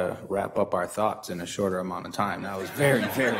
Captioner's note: audience laughs